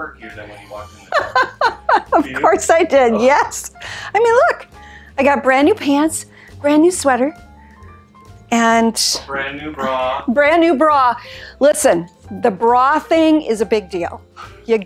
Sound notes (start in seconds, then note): 0.6 laughs